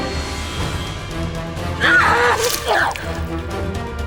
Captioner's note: screams